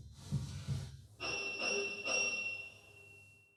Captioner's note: doorbell